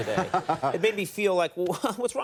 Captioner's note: Kevin and audience laughs